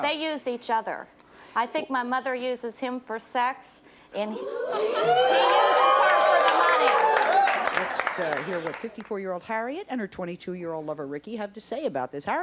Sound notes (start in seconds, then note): 4.2 audience oohing